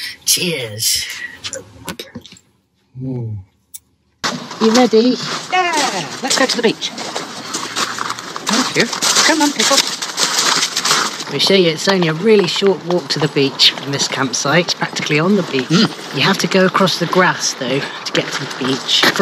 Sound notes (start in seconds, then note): none